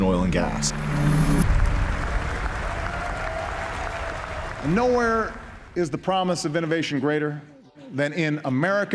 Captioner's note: audience applauding, cheering